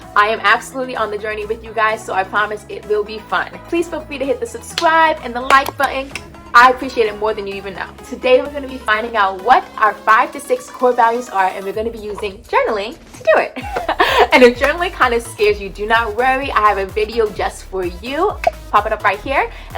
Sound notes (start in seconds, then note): 6.0 clicks tongue; 13.3 laughs